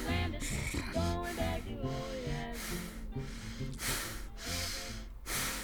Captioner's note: Brad breathing heavily